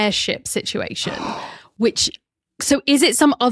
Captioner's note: gasps